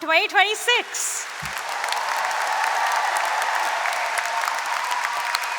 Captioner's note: cheering and applause